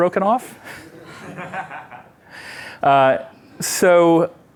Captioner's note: laughter